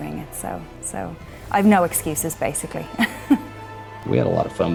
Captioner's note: chuckles